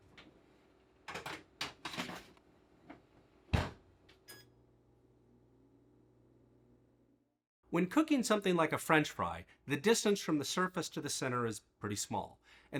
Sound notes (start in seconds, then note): 1.1 tray clanks; 3.5 door thuds; 3.6 oven beeps